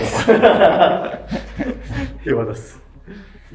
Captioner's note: laughing